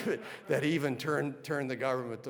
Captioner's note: audience laughing